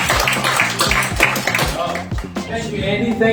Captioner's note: participants clapping